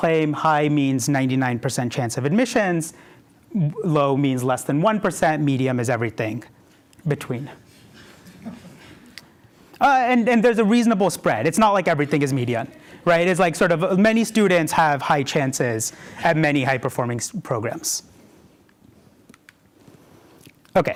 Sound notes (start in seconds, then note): 9.7 laughter